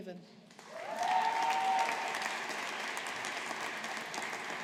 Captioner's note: audience applauding